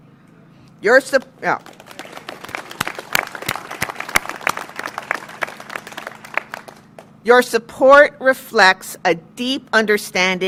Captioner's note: applause